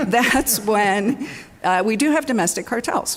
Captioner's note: laughter